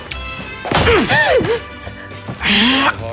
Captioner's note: gasps